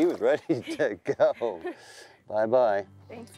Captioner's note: both laughing